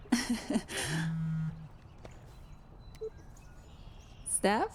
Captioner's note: laughs; phone buzzing